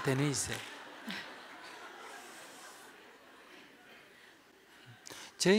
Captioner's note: audience Laughter